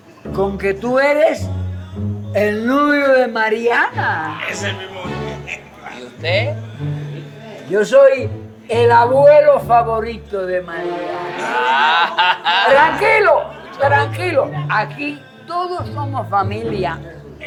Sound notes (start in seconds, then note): 10.8 laughs